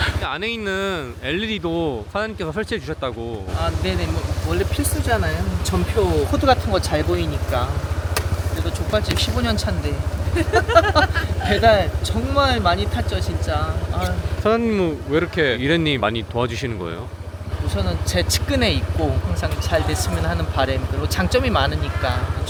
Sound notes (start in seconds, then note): 0.0 laughs; 10.3 laughs